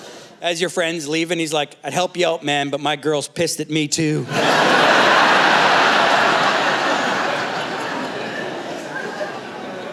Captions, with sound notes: As your friends leave and he's like, I'd help you out, man, but my girl's pissed at me too. (Laughter)